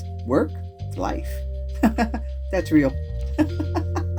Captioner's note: laugh